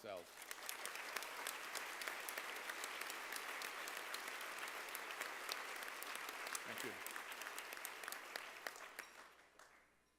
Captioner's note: applause